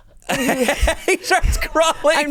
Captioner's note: laughs